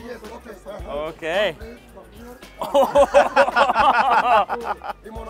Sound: laughs

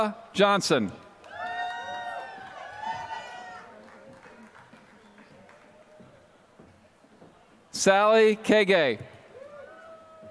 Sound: applause

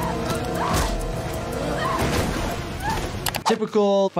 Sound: person screaming

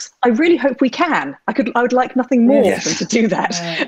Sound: she laughs

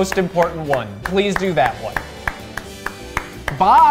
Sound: clapping

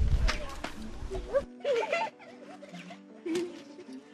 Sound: chuckles

